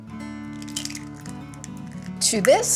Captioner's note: egg cracking